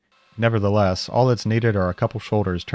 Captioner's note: mill whirring